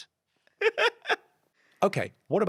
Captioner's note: Ahir laughs